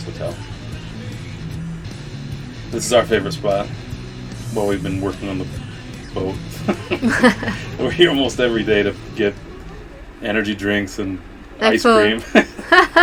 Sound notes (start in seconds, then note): 5.9 laughs